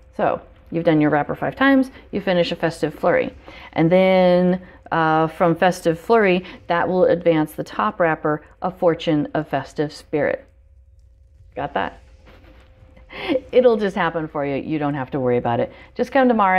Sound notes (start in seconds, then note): 12.3 laughs